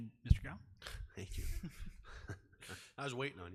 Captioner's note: laughing